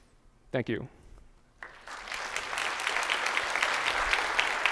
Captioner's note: applause